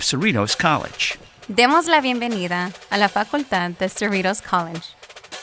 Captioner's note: speaking Spanish